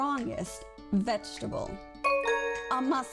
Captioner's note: bell sound